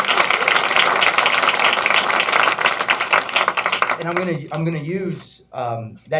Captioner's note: applause